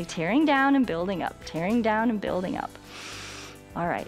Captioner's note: inhales